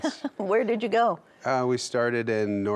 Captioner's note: laughs